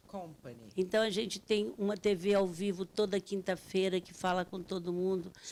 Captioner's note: speaking Portuguese